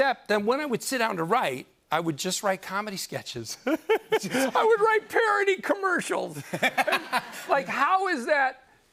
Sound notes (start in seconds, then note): 3.8 laughs; 6.4 laughter